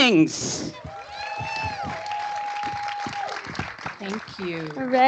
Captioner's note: applause